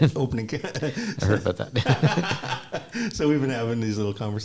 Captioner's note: laughter